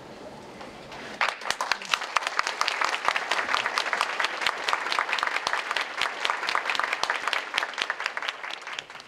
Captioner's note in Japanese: 拍手